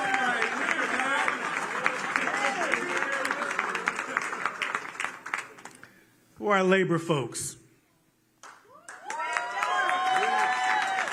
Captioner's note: laughter